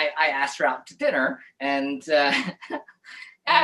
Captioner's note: laughs